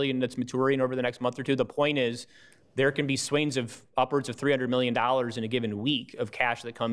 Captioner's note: none